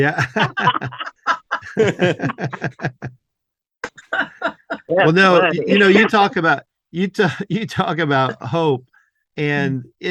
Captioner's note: laughing